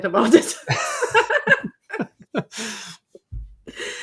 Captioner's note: group laughing